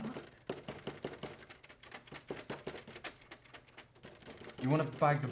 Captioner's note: frantic knocking continues